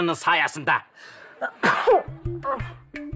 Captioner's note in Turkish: Hapşırma sesi